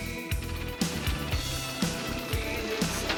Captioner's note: printing